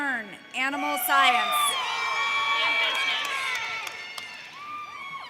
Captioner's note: audience cheers